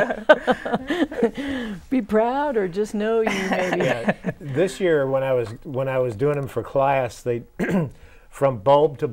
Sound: laughing

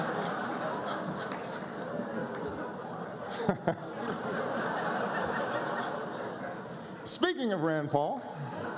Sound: laughter; laughter

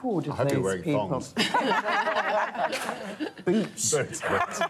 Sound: laughter

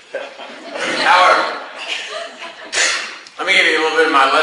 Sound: class laughs

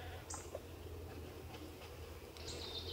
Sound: humming, birds chirping

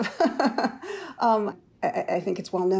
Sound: laughs

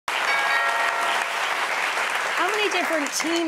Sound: audience applause; bell ringing

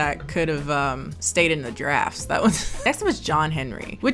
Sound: laughs

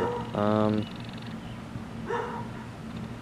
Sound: dog barking

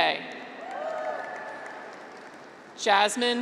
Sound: graduates cheer

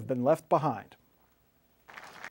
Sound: applause

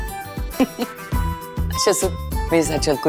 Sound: giggling

